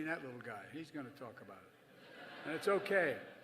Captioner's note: laughter